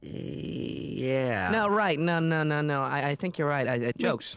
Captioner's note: hesitantly